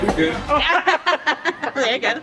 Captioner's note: laughter